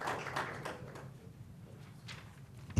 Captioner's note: applause